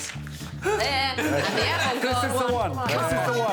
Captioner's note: guffawing